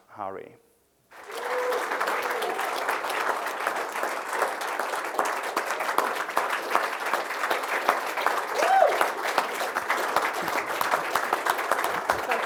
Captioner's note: applause